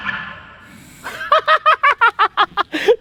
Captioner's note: laughing